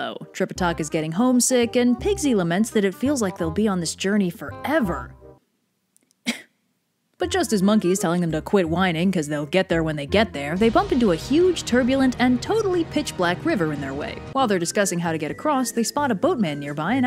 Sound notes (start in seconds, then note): 6.2 cough